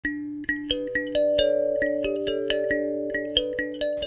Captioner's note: gently chiming bells